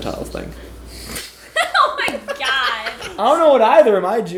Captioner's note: laughing